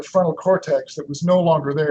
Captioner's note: chuckles